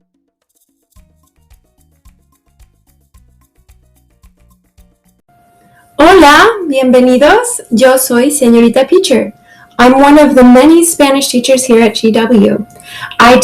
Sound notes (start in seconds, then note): 0.6 traditional Spanish music; 6.1 speaks in Spanish